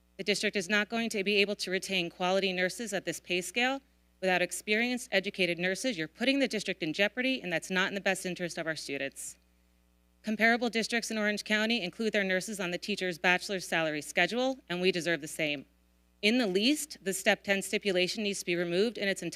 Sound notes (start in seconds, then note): none